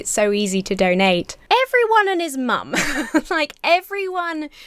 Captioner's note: chuckles